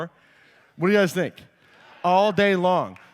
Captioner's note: audience agrees